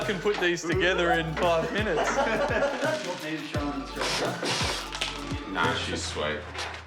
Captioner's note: laughter